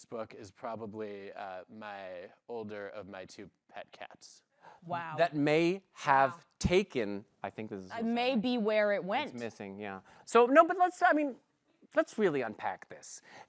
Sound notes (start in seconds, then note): none